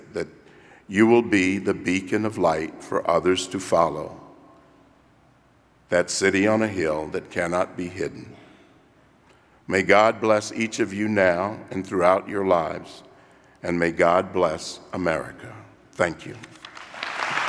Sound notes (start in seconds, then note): 16.4 applause